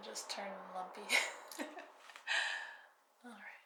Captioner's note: laughing